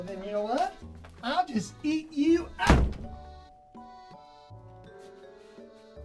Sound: door slams

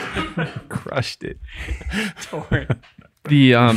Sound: laughs

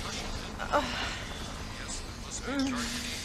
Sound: moaning continues

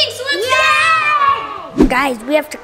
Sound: all cheering

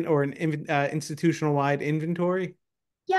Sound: none

